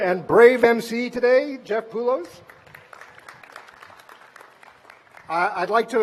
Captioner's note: applause